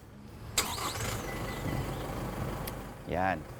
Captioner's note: Isuzu mu-X starts